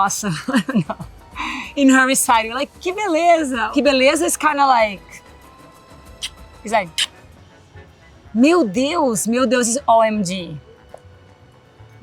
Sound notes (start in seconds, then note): 0.3 laughs; 3.0 speaks Portuguese; 6.2 smacks; 8.3 speaks Portuguese